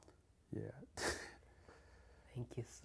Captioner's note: laughs